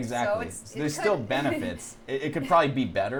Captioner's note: laughs